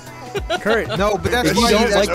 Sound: laughing

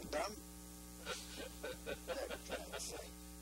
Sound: laughing

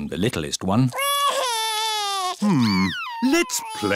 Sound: crying

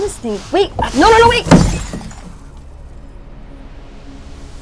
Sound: glass shattering

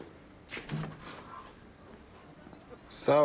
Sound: bells jingle

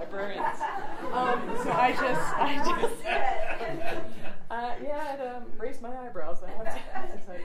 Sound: audience laughing

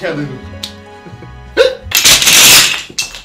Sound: hiccup

